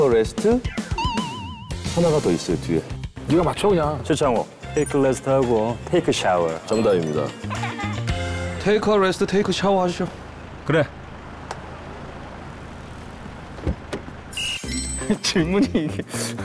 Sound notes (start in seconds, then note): 7.2 ding / Hehe